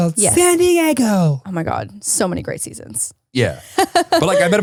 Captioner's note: laughs